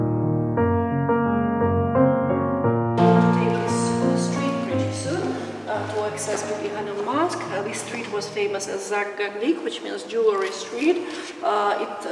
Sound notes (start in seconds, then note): 0.2 soft music; 8.4 speaking in foreign language